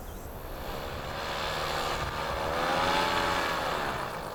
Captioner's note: motor putting